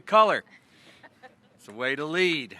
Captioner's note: laughter